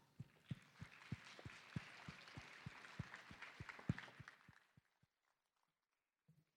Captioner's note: applause